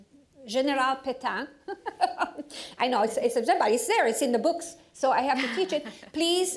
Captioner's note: laughing